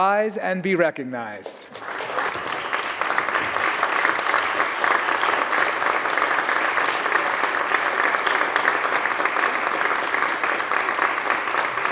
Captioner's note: applause